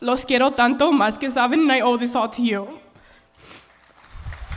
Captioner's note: speaking spanish; applause